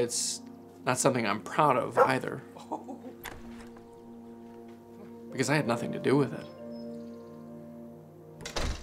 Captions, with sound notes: (ANDREW LAUGHS) Because I had nothing to do with it. You don't get to choose when you're born.